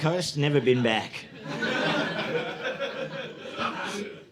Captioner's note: audience laughing